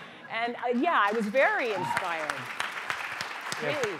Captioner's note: applause